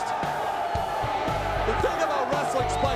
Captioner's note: crowd cheering